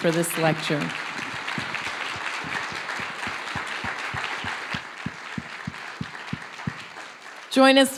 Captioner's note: applause